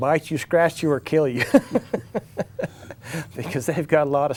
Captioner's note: laughs